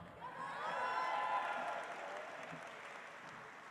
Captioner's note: audience applauds